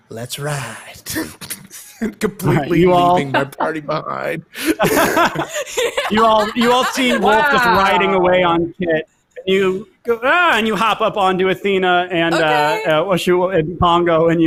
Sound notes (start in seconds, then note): 1.1 laughs; 4.6 all laughs